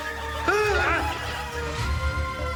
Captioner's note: Lasky gasping over menacing electronic music; tense and menacing electronic music; Lasky groans